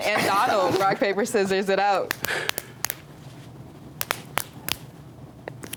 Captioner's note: hands slapping